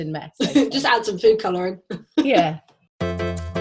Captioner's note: laughs